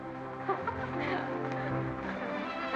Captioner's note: women giggling